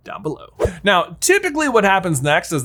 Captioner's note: scene swishes